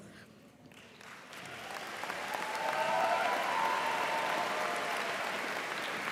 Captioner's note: audience cheering and applauding